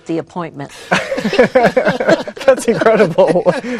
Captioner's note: all laughing